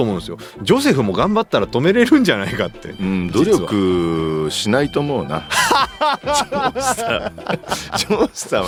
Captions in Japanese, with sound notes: うん。努力しないと思うな。さ、ジさんはね、そんなね、時を止めるのにね、やっぱりね、努力しなきゃいけないんじゃない? [笑い]